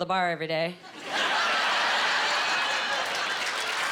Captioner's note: laughing